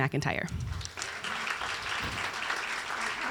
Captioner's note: applause